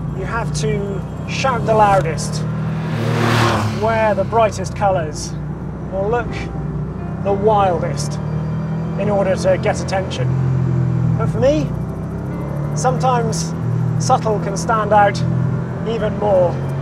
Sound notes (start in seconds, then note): 3.3 engine roars; 5.4 gentle music